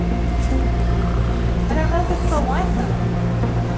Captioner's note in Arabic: يشخر; موسيقى مبهجة